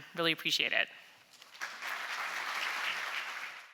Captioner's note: applause